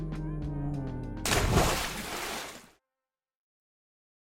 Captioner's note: splash